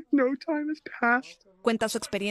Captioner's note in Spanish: hablan en inglés